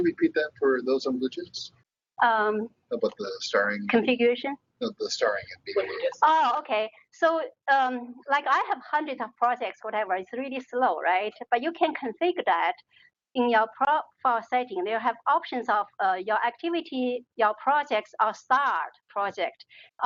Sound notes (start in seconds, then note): 6.6 talking